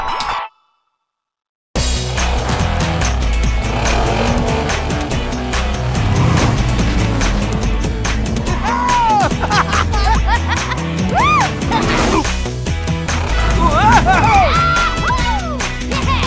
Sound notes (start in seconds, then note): 0.2 silence; 4.7 car engines; 9.1 laughter